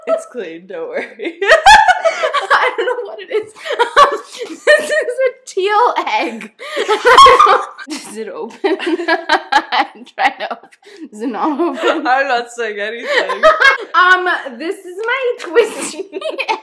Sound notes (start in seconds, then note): 6.7 laughing